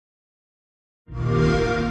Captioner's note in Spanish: sonido de xbox